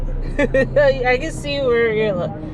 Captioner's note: laughs